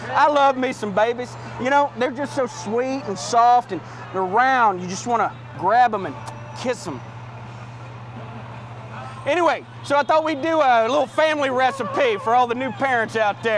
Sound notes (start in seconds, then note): 6.2 kissing Sound; 13.3 amidst Cheers